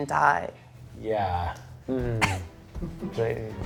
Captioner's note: coughs